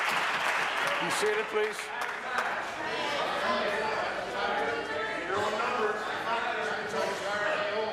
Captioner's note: applause